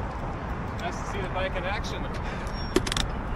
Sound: panting *nodnods

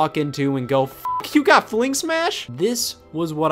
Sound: beeps

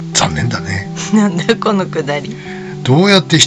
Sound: laughs

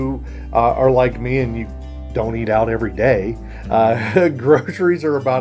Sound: laughing

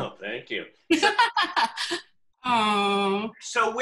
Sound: laughs

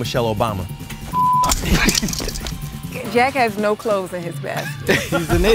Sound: laugh; laugh

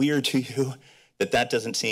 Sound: chuckles

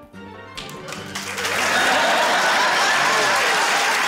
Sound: cheering, applause

